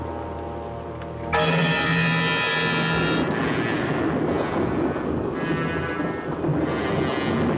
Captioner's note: suspenseful music continues; lightning crashing